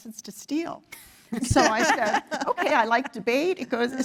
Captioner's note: laugh